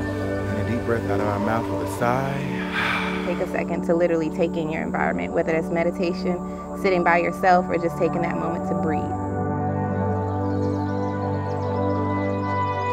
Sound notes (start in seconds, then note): 2.3 man sighs; 10.0 uplifting music